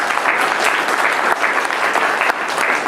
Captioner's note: clapping